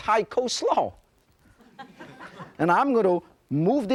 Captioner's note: laughter